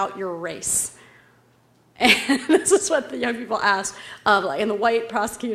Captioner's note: laugh